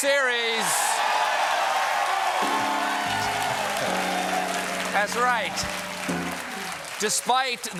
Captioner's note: cheers and applause